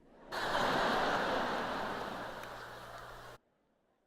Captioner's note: laughter